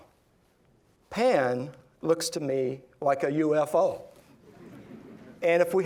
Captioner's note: laughing